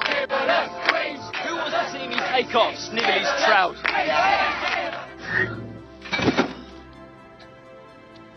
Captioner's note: chanting